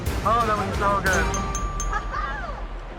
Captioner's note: ding ding ding